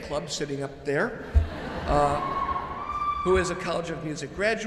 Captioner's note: audience chuckles